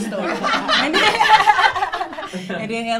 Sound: all laughing

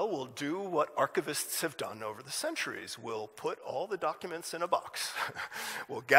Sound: laughs

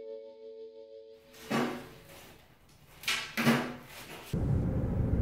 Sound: random banging noises

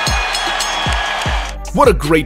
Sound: bell rings

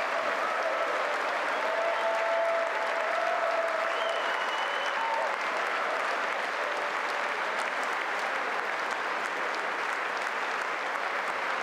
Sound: applause

